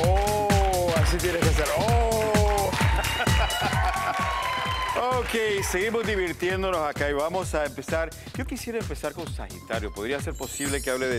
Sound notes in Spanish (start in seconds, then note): 5.9 Risas